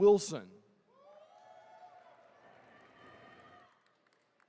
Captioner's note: attendees cheering